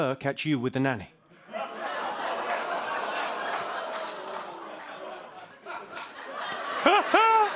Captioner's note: audience groaning; laughs